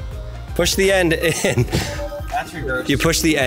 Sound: chuckles

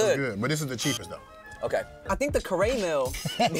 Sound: both laugh

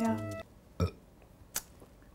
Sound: burp

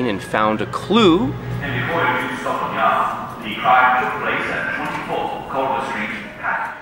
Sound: radio broadcast

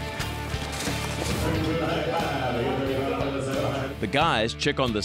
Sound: auctioneer speaking rapidly

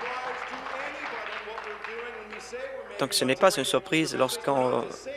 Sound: applause

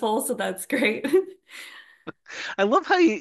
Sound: laughs

